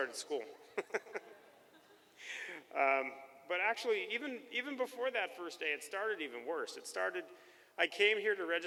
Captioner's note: chuckles